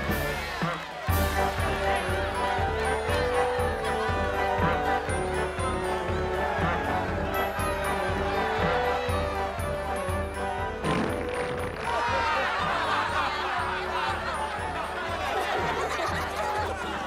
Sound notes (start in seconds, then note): 10.8 fart sound from a whoopee cushion; 12.1 laughter; 14.9 giggle